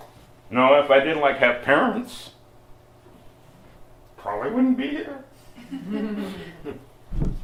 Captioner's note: slight laughter